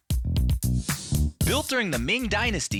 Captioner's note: air whooshing